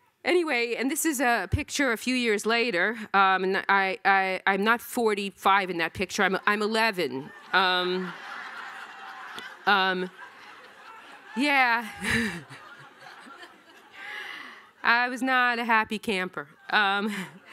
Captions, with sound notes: Anyway, and this is a picture a few years later, and I'm not 45 in that picture, I'm 11. (audience laughing) Yeah. (laughing) I was not a happy camper.